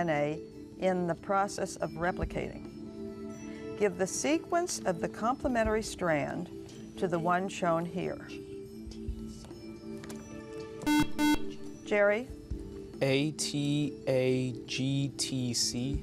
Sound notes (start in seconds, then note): 7.9 whispering; 10.8 buzzer